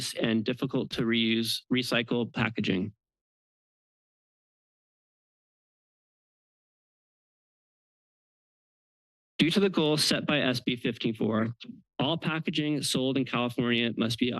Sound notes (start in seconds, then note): 3.0 pause